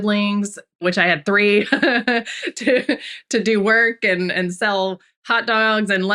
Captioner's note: laughs